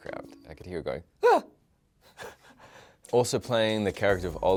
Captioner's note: giggles